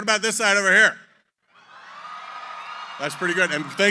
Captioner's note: cheering